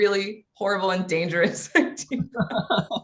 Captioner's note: laughs